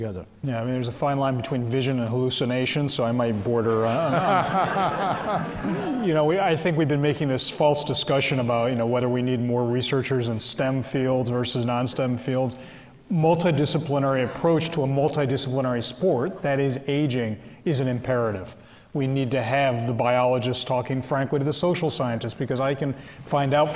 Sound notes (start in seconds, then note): 3.7 they all laugh